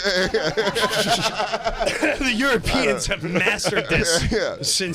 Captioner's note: laughter